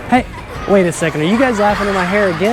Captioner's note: children's laughter